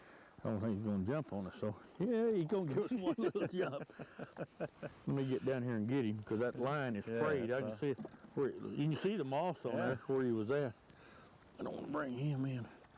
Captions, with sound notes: I don't think he is going to jump on us thou. [laughter] Let me get down here and get him because that line is frayed. I can see. you can see the moss on there. where he was at. I don't want to bring him in.